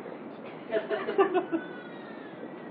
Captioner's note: Gülüşme